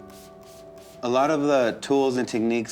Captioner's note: liquid spritzing